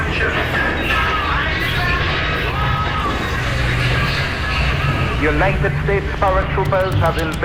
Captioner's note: soundbite of gunfire